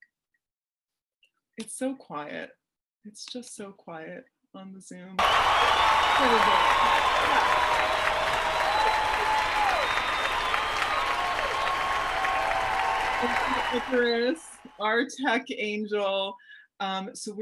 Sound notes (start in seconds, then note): 7.3 applause sound effect